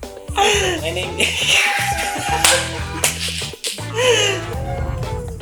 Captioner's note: laughing